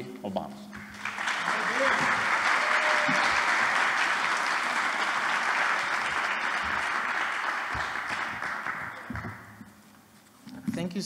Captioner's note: applause